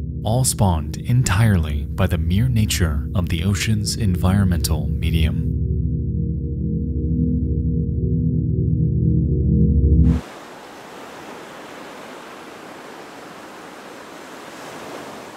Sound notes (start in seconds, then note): 5.3 high intensity music; 10.0 waves crashing